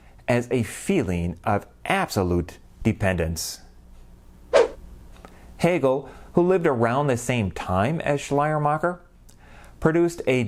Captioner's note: swoosh